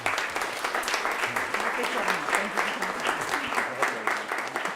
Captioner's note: audience applauding